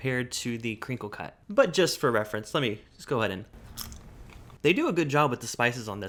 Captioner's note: Crunch